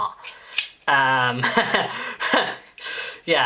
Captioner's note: chuckles